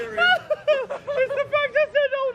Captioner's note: laughs